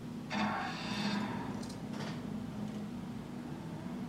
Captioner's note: engine starting